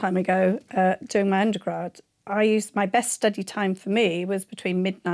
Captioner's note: none